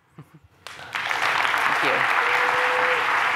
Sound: cheers, applause

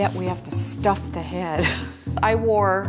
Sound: laughs

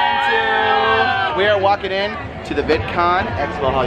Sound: yelling

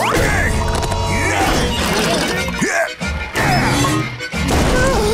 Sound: grunting

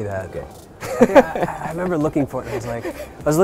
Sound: laughing

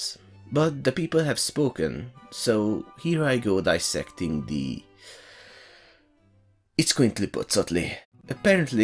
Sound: sigh

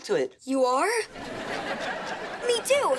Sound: laughing

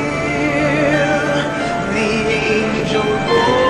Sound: none

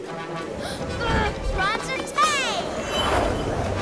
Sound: gasps

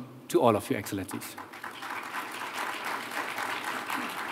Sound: applause

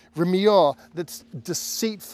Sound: speaking Hebrew

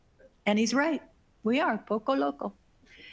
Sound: speaking foreign language

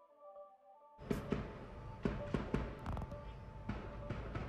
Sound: distant gunfire

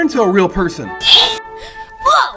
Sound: magical sound

